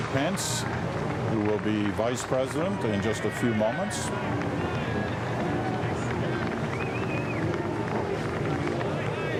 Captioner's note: cheering